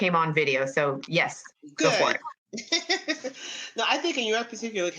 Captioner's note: laughs